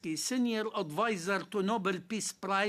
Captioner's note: speaking French